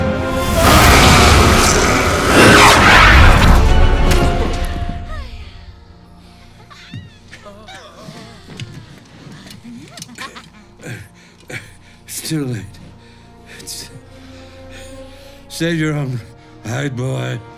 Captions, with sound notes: (magical whooshing) (demons giggling) It's too late. Save your own hide, boy.